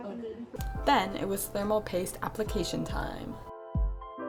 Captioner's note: voiceover